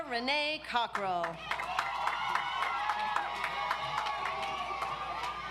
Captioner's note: audience applauds